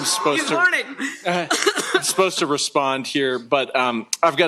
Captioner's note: chuckles